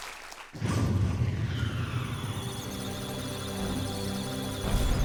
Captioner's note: electronic sounds of data; musical tones